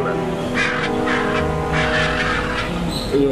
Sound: birds squaking

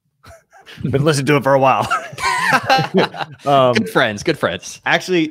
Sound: laugh

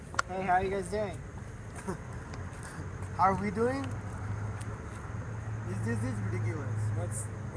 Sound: chuckles

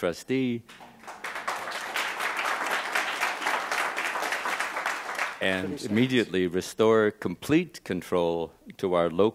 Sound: applause

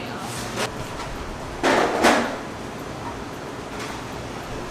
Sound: cart banging

